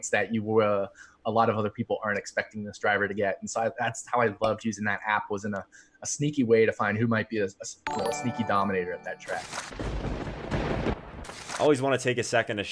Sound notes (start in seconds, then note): 7.8 bells; 9.7 thunder